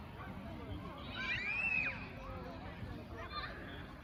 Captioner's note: kids playing